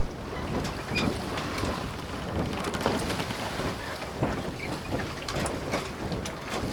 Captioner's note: water lapping against the side of the boat